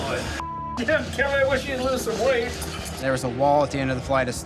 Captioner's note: beep